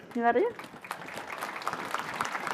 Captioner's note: audience applauding